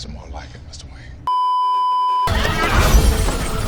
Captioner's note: beeeeeeeeeeeep